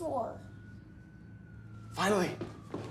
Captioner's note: siren wailing